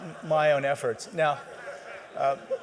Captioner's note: laughter